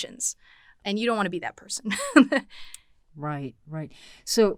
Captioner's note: chuckles